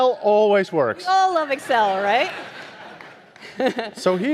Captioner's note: audience laughing